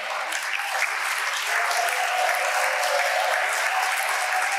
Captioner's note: audience applauding